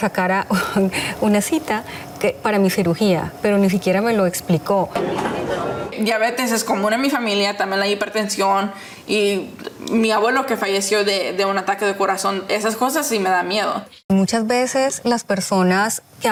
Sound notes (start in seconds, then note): 4.9 speaking Spanish; 13.2 speaking Spanish